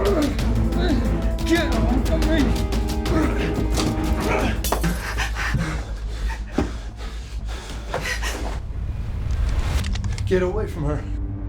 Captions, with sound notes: (David grunting) (glass shattering) - Get away from her.